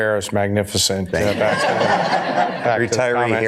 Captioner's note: audience laughter